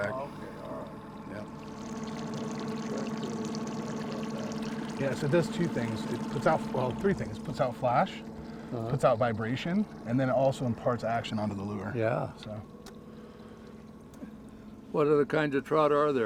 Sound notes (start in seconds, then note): 2.3 boat idling